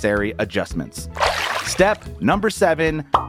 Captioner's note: water sloshing